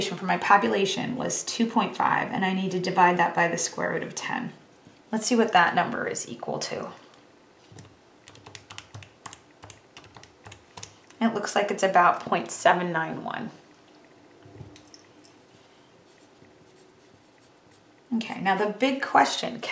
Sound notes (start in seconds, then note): 8.2 calculator typing; 16.0 pencil scribbles